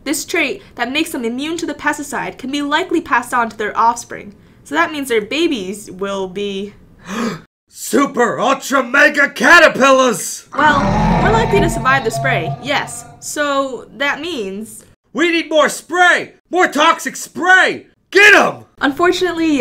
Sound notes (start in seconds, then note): 7.5 gasps; 10.5 giant caterpillar roars loudly in the background